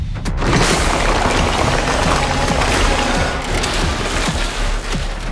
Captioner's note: big breakthrough and metallic roar